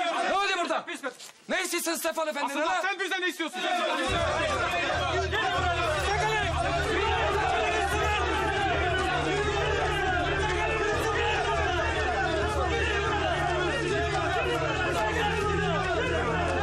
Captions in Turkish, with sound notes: Ne oluyor burada? Ne istiyorsunuz Stefan Efendi'den? Asıl sen bizden ne istiyorsun? (Bağrışmalar.)